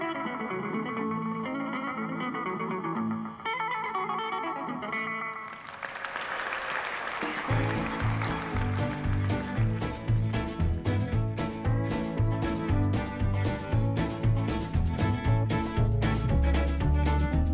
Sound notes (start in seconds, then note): 5.3 audience applauding; 7.8 lively country guitar music